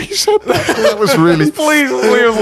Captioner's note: laughing